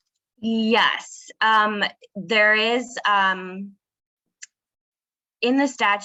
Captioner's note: none